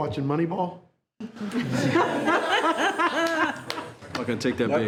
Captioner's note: all laughing